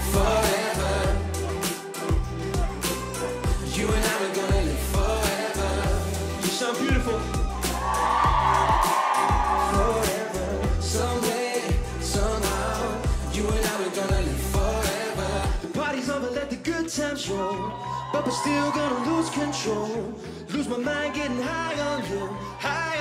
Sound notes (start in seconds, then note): 6.4 audience cheering